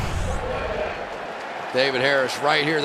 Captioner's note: pa announcement